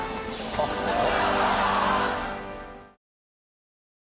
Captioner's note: music concludes; audience laughs